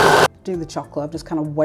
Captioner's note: food processor whirring